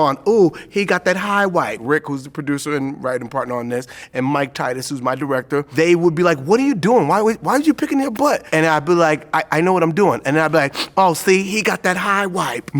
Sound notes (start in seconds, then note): 10.6 sniffs